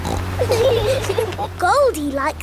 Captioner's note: laughing